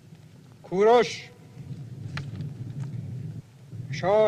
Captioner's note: Persian spoken audio